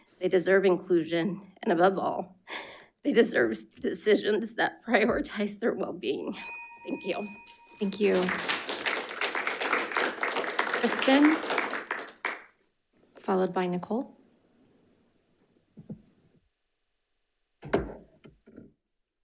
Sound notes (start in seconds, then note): 6.4 bell dings; 7.8 audience applauds